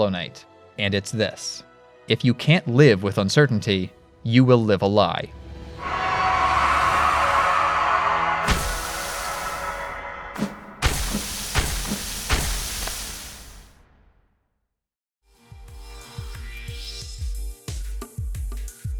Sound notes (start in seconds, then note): 5.8 radiance screams within hollow knight; 8.1 nail striking body, spray of infection